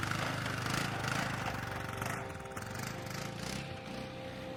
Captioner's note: engine revving